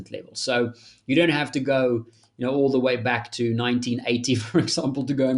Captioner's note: chuckles